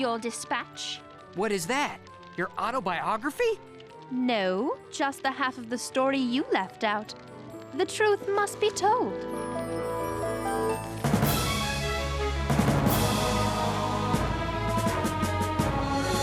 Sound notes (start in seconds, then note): none